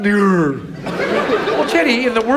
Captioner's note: audience laughs